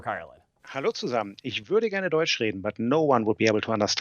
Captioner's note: speaking German